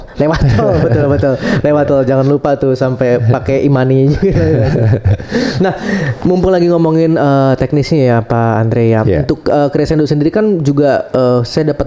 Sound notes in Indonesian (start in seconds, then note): 0.0 tertawa; 5.0 terkesiap